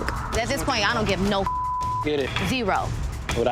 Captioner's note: beep